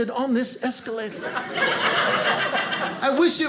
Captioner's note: audience laughing